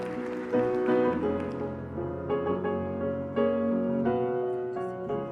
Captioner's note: applause